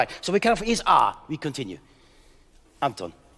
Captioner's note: speaking in French